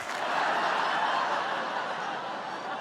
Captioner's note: laughter